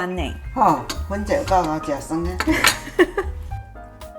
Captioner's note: laughs